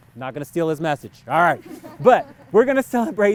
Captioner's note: laughs